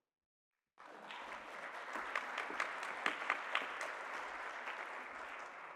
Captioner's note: applause